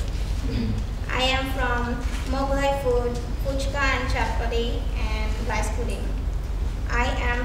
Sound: speaking foreign language

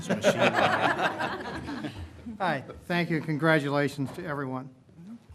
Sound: laughter

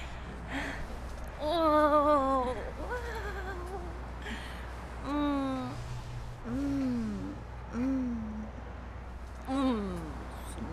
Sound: moaning

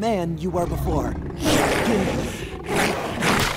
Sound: screeching

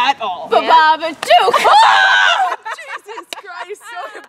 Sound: screams

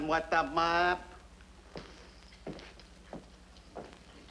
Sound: footsteps thud

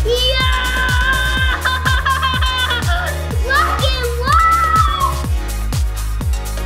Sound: upbeat dance music; laughs maniacally; upbeat dance music

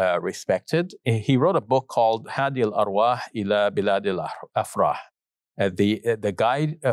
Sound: foreign language

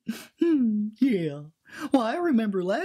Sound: giggles

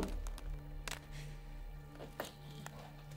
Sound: twigs snapping

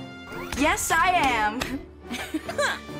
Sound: giggle

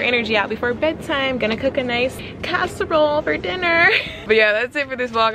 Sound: laughs

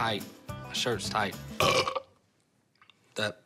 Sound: burp

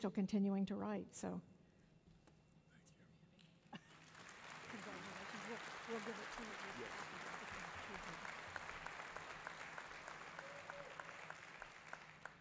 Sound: applause

